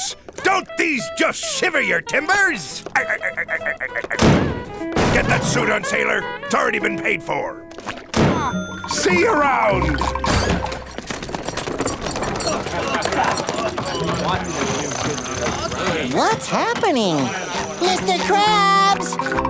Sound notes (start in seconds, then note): 2.8 laughing; 12.5 indistinct chattering